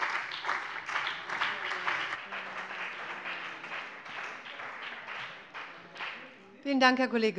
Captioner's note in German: Beifall bei dem BÜNDNIS 90/DIE GRÜNEN und der CDU